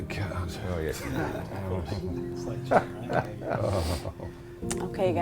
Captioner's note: group muttering